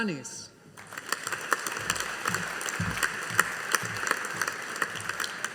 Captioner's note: audience applauding